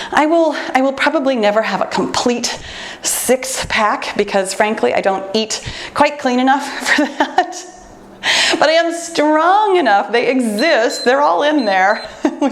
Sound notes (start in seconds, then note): 7.8 laughs; 10.4 timer beeps